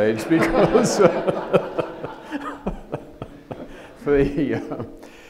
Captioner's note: audience laughs